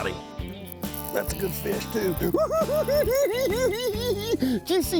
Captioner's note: giggling